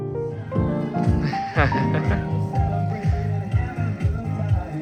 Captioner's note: background music; laugh; loud music